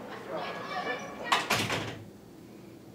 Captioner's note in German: Tür schließt sich